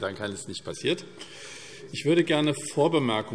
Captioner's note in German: none